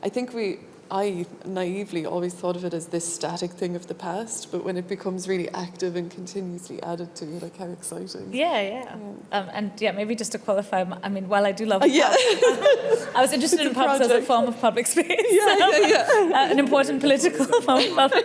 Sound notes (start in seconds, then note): 11.8 laughs